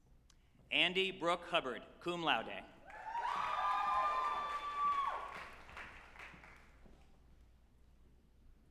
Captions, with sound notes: Andie Brooke Hubbard, cum laude, (group applauding and cheering)